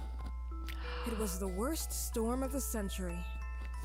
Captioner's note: gasps